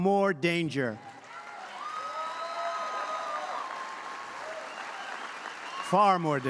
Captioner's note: applause